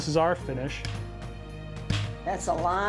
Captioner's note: taps